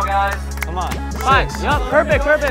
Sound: spectators clapping hands

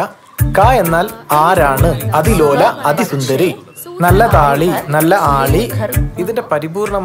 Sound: Reciting Kunchan nambiyar poem

